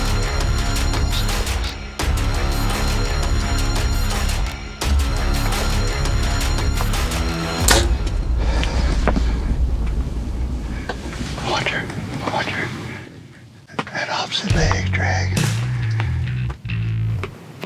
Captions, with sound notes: The one closest to us. You ready? - Yeah. (arrow shoots) Watch her. Watch her. That opposite leg's dragging.